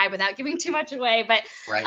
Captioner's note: chuckling